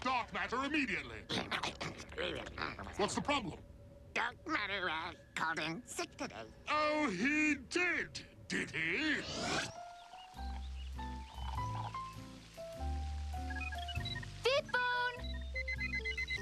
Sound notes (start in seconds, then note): 13.4 beeping